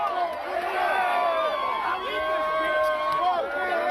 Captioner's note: cheering and applause